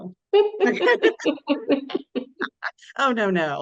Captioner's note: laughing